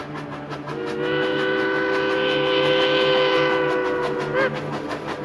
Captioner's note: train whistling